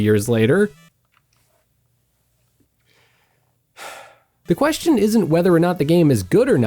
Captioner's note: sighs in pain